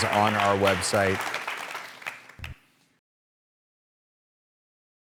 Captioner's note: audience applauding